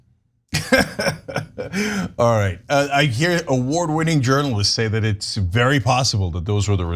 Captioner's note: laugh